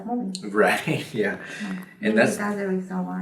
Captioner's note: laughs